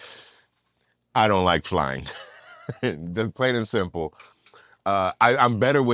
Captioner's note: laugh